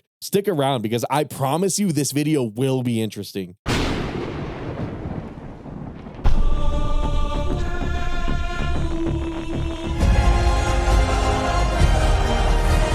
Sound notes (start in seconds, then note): 3.7 thunder rumbling